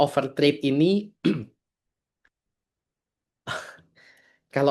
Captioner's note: berdehem